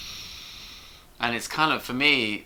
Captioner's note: inhales deeply